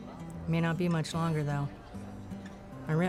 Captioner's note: none